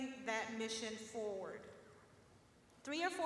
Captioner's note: none